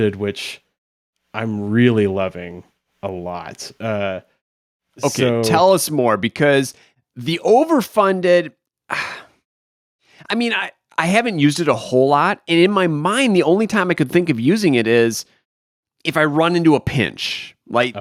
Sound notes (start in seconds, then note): 8.9 sighs